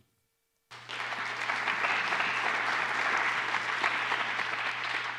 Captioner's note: applause